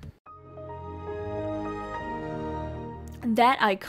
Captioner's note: Windows XP startup sound